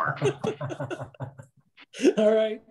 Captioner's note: laughing